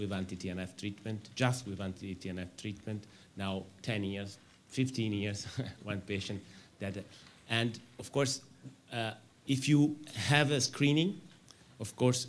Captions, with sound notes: anti-TNF treatment, just we want anti-TNF treatment. Now, 10 years, 15 years [chuckles] one patient, DADA. Of course, if you have a screening, of course,